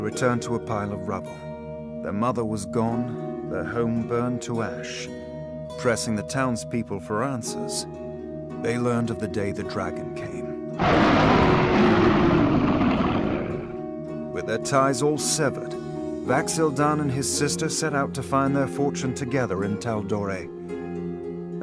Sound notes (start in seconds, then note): 10.8 roar